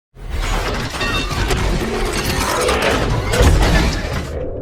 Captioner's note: electronic sound effect